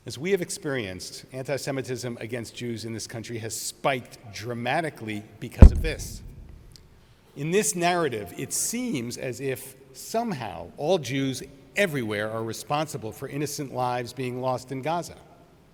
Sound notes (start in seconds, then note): none